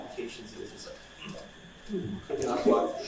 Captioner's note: grunts